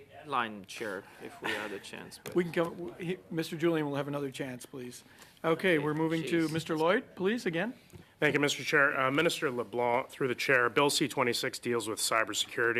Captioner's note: laughter